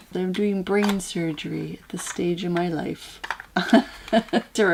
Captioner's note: laugh